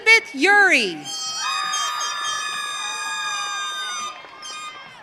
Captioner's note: audience cheering